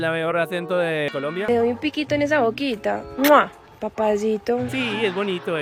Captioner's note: Paisa accent